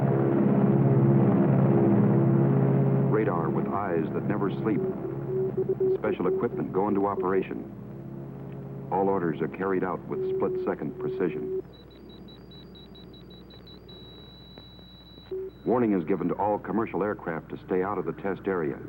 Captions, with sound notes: Radar with eyes that never sleep, and special equipment go into operation. All orders are carried out with split second precision. (beeping) Warning is given to all commercial aircraft to stay out of the test area.